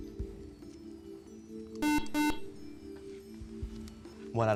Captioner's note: beep